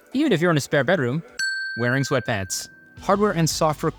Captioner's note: bell chiming